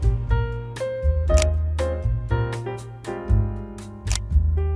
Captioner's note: upbeat jazz; camera click